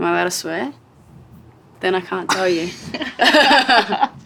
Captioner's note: laughs